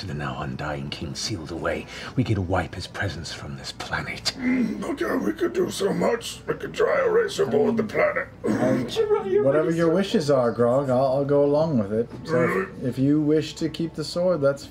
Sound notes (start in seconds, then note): 4.7 strained